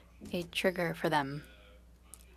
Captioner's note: speaking French